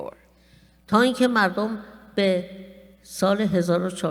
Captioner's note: speaking persian